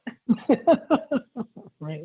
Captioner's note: laughter